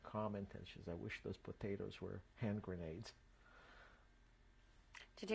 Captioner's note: none